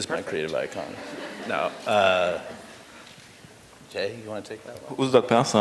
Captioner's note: laughter